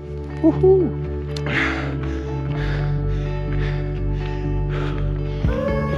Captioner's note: Gasps